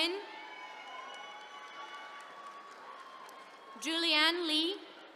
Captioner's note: attendees cheering